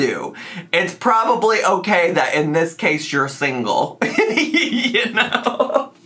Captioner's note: laughs